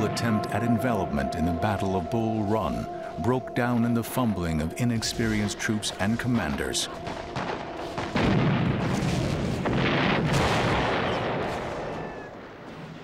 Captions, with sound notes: at envelopment in the Battle of Bull Run broke down in the fumbling of inexperienced troops and commanders. [war sounds]